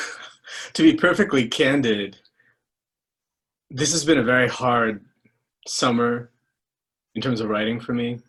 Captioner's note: laughter